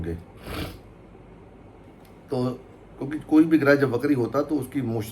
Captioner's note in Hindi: नाक से की जाने वाली आवाज़